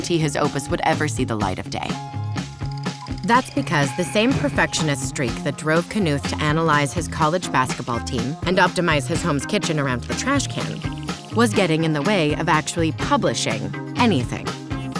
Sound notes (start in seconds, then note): 2.2 film projector rolls